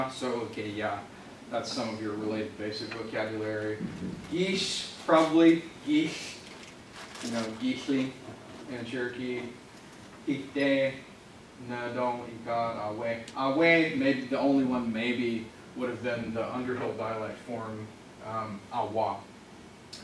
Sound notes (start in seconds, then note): 10.1 lists words in Native American language